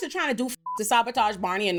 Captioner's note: beep